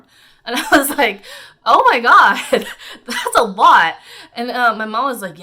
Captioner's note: chuckles